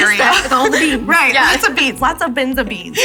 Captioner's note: both laughing